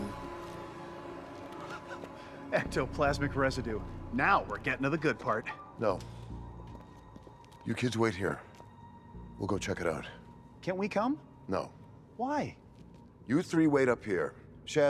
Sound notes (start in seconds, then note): 1.4 laughs